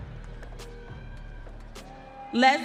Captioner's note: audience cheering